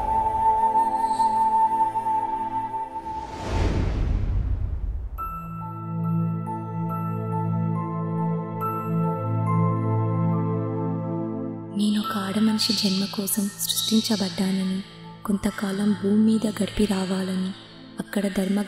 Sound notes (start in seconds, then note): none